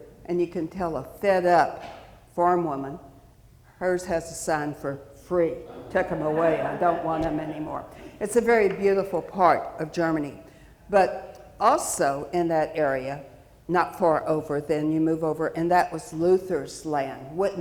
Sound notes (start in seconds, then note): 5.6 audience chuckling